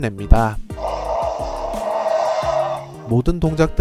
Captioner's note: roars